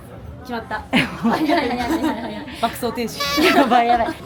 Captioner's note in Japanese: 笑い